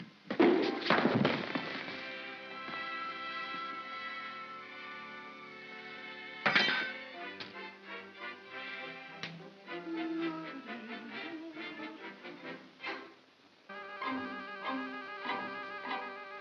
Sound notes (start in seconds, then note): 0.3 pop & thump; 2.4 soft music; 6.4 spoon clatters; 8.2 soft whimsical music; 13.7 ominous whimsical music